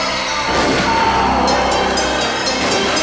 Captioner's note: TJ groans; gun fires